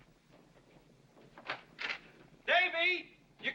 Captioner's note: door opens